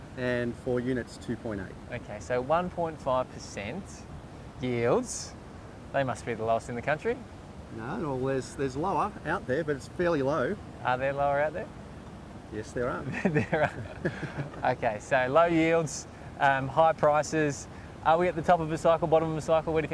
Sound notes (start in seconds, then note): 13.0 laughs